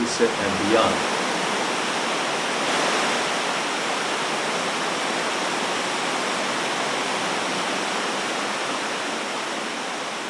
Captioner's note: rushing water sound